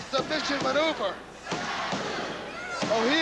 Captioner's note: crowd cheering